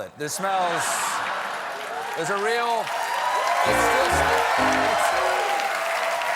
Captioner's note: cheers and applause